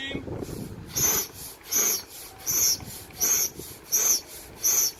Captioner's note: air pumping